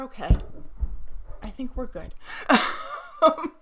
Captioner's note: laughs